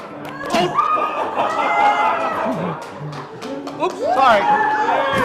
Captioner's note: laughter